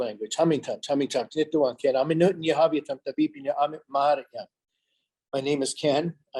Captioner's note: speaking in a foreign language